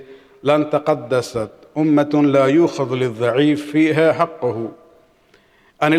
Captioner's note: arabic